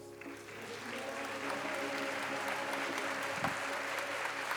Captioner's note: applause